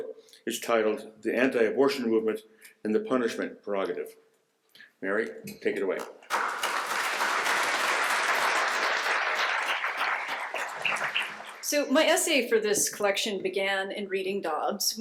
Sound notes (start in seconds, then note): 6.0 applause